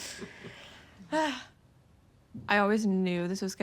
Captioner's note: relieved sigh